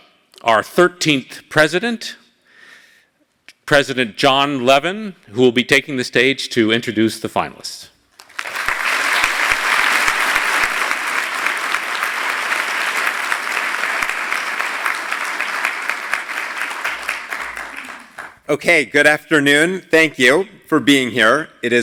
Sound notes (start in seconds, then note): 8.1 applause